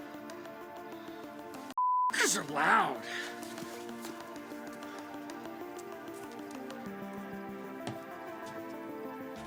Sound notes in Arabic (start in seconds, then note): 2.1 موسيقى إيقاعية متوترة; 2.2 زقزقة الصراصير